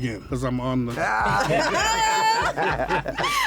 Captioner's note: laughter